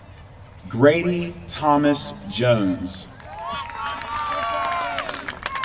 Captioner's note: applause